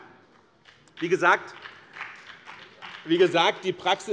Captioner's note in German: Beifall